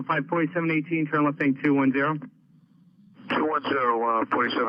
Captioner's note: men chattering